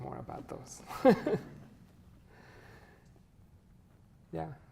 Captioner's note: chuckles